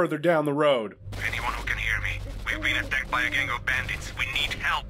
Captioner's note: radio